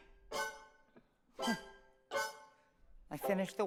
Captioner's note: grunts softly; singing